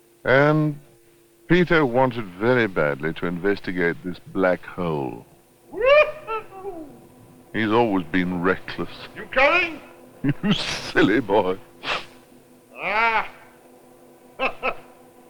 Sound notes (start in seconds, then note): 10.2 laughing; 11.8 sniffles; 14.4 chuckles